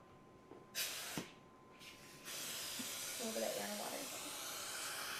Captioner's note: suction tube hums